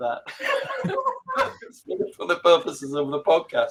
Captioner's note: all laughing